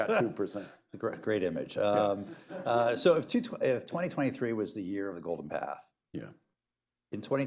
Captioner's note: laughter